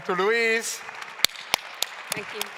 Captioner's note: claps